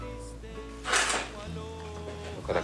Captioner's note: shovel scrapes